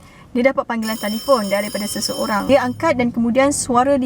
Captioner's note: phone rings sound